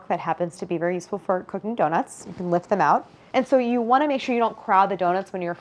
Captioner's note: none